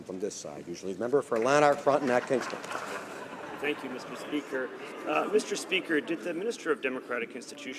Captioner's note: some Applause